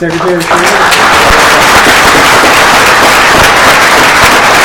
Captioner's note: applause